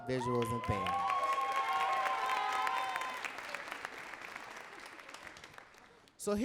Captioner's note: audience cheering and clapping